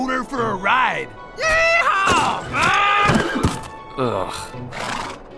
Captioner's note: screams